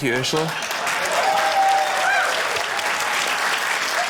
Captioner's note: cheering, applause